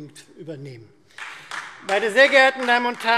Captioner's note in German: Beifall Freie Demokraten